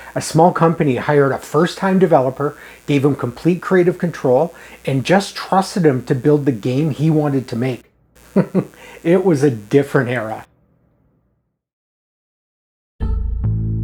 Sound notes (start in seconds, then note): 8.2 chuckles